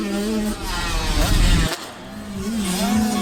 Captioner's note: whoosh sfx